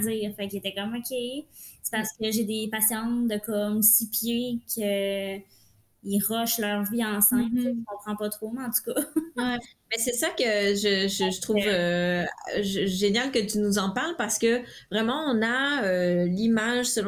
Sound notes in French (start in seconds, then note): 9.0 rires